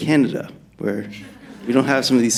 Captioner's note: laughter